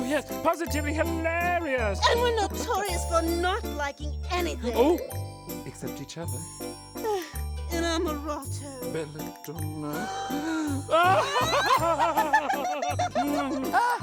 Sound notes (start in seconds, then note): 7.5 speaks foreign language; 10.0 laughing